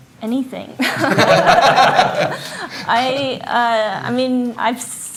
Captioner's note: audience laughs